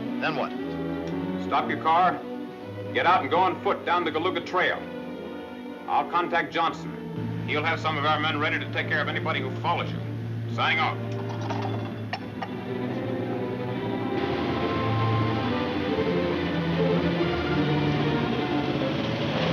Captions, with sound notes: - Got it, then what? - Stop your car, get out and go on ft down the Galuga Tra. I'll contact Johnso. He'll have some of r men ready to take ce of anybody who follows . Signing off. (radio rattling)